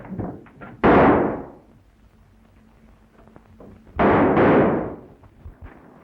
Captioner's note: gunshots